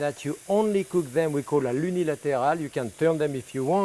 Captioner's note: speaks in French